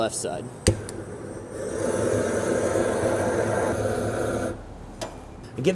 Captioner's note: blowtorch clicks and hisses